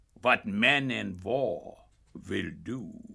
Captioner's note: none